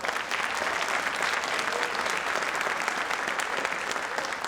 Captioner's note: audience applauding